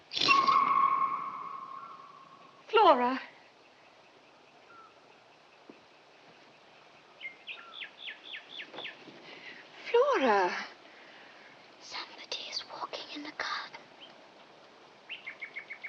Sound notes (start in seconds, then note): 11.7 whispering